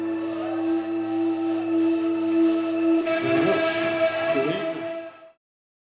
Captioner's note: people cheering